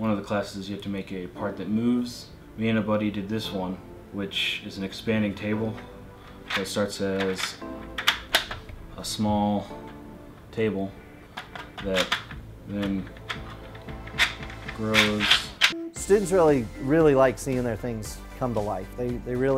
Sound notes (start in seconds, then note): 6.2 clicking noises of table mechanics